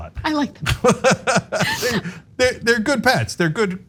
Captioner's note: laugh